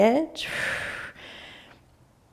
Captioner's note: exhaling